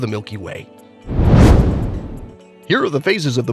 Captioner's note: meteor whooshes